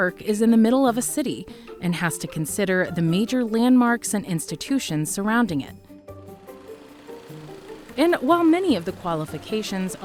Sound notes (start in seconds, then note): 1.0 light energetic music; 6.0 engine humming